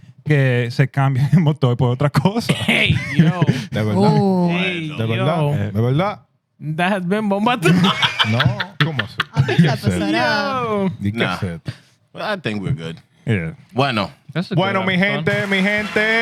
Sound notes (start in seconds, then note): 0.0 speaking Spanish; 6.7 speaking Spanish; 7.6 laughter; 9.2 speaking Spanish